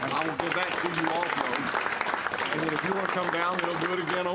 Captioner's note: clapping